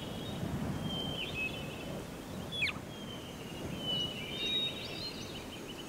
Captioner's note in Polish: śpiew ptaków, szum